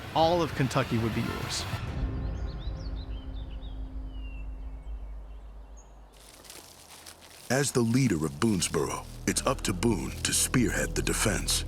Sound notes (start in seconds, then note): 2.0 birds chirping